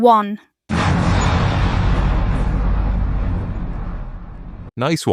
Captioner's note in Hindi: विस्फोट।